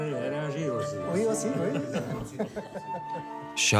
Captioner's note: chattering